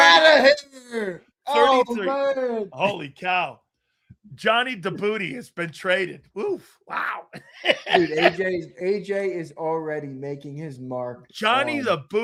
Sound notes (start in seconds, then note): 6.9 laughs